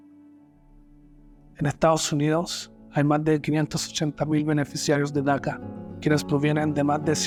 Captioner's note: narrator speaking in foreign language